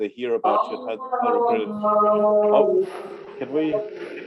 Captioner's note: non-english speech